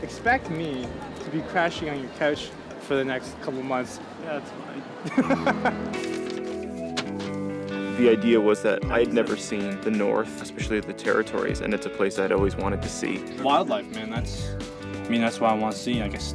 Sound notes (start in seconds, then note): 4.4 chortling